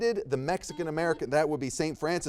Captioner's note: buzzer beeps